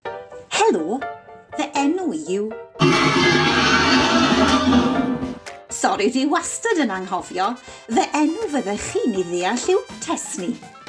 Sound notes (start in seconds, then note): 2.8 Sŵn rhuo